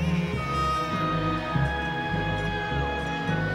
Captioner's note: people screaming; baby crying